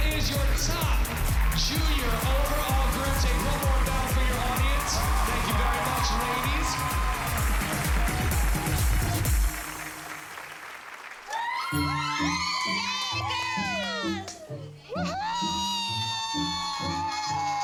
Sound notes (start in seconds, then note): 7.2 cheering; 11.2 excitedly screaming